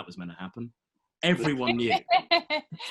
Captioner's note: laughing